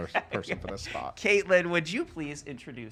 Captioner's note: laughs